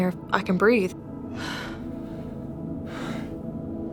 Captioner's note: sighs